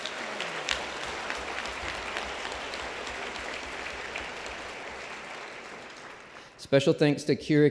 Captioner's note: applause